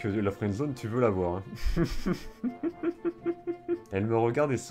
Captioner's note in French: Rires